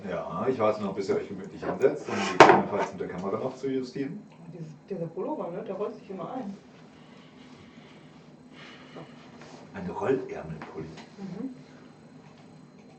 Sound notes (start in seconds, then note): 8.4 inhales; 8.4 exhales